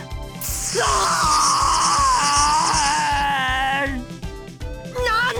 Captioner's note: waterworks